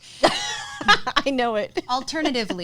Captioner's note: laughs